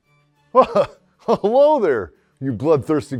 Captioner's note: laughs